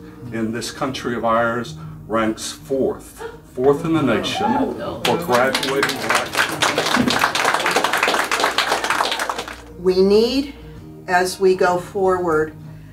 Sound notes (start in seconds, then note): 7.9 applause